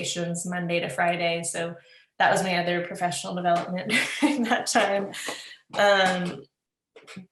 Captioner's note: laughs